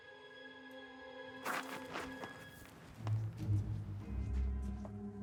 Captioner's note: gravel rustling